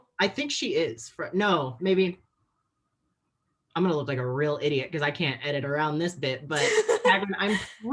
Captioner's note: laughs